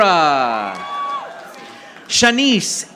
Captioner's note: audience applauding